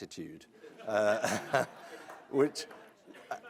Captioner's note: audience laughs